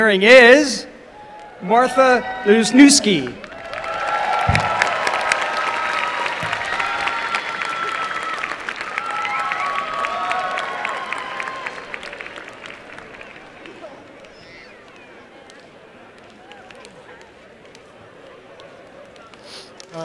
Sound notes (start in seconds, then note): 3.0 applause and cheering